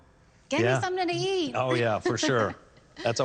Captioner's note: laughs